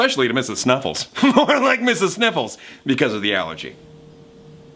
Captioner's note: chuckles